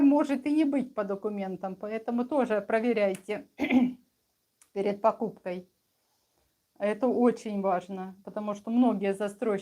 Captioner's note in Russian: откашливается